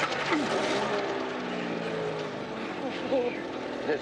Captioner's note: engine revving